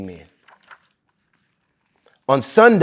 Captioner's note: pages rustling